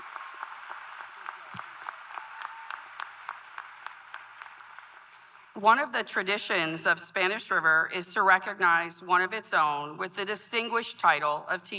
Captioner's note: applause